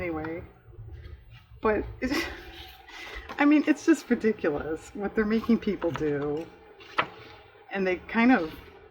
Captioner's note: laughs